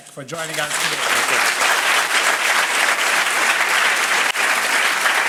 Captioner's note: crowd applauding